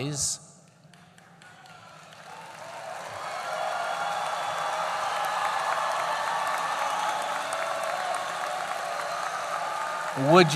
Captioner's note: applause